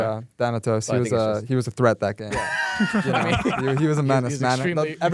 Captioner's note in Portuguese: risos